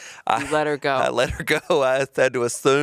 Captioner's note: chuckling